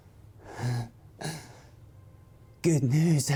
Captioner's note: Eric chuckles; ominous music